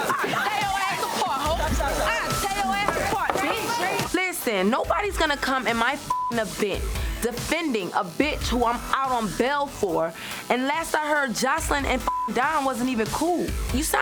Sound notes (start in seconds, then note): 0.0 overlapping chattering; 6.0 beep; 12.0 beep